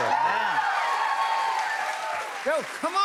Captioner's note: cheers and applause